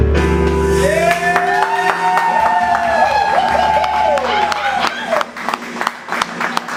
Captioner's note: audience cheering